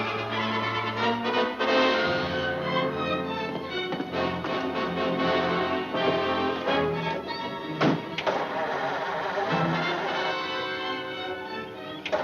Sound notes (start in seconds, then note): 8.1 car cranking